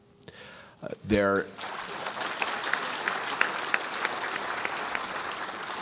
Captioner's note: applause